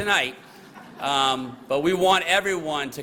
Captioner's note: laughter